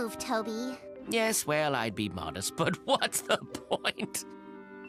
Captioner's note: chuckles